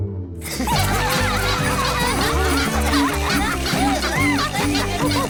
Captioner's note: all laughing